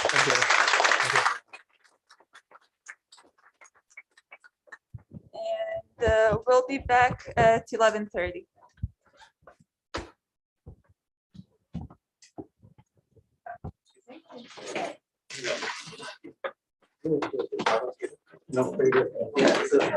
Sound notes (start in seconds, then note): 8.5 background chatter